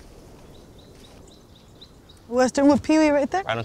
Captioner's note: birds chirping